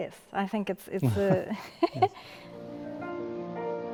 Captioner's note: laughing; soft piano music